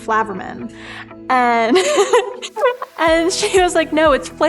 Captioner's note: laughter